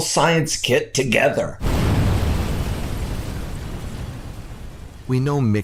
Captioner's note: small explosion and fire sound